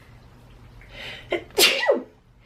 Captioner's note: sneezes